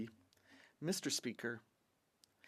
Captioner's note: speaking French